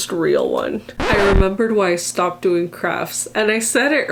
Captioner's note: record scratch